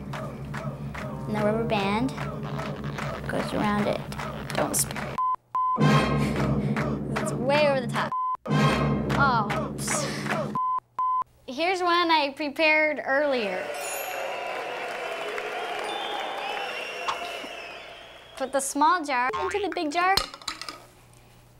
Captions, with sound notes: AND THE RUBBER BAND... GOES AROUND IT. DON'T SPILL IT. [ BEEPING ] IT'S WAY OVER THE TOP. OH... [ BEEPING ] HERE'S ONE I PREPARED EARLIER. [ CHEERS AND APPLAUSE ] PUT THE SMALL JAR INTO THE BIG JAR.